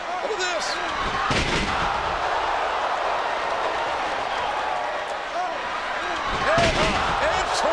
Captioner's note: bodies thud; audience groans; bodies thud